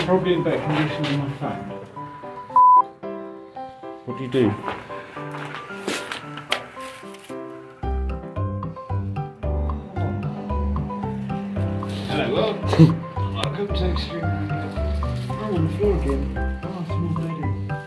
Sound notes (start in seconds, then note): 2.5 beep